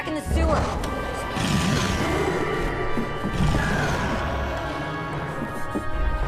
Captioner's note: roaring